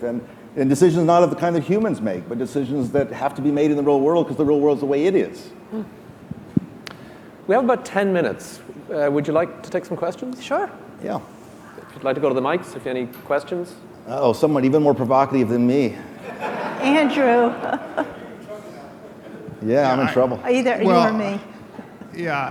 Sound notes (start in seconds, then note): 16.2 laughing